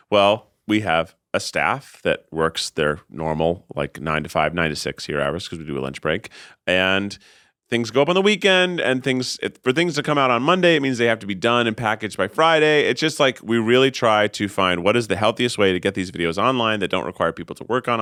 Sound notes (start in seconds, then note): none